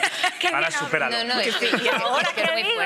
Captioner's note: they laugh